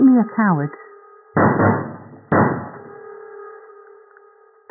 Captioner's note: banging